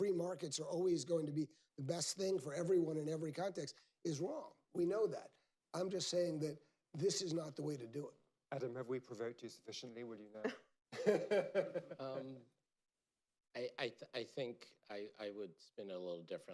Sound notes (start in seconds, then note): 10.8 laughter